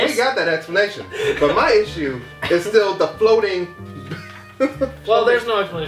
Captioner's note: laughs